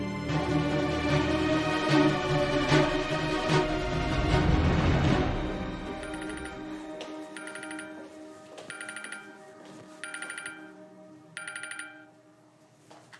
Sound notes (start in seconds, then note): 0.2 stirring music playing; 5.8 phone ringing